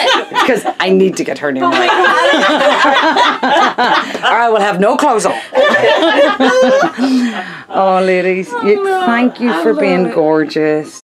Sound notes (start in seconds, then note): 0.0 laughing; 2.9 all laughing; 5.1 laughing